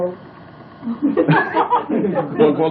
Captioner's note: laughter